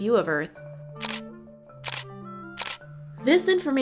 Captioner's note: camera shutter